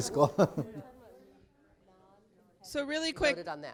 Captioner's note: laughs